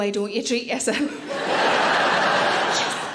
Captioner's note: audience laughing